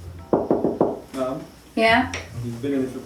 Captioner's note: knocks